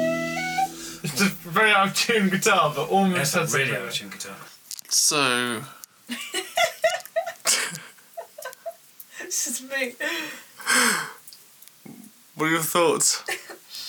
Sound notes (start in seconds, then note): 6.1 laughing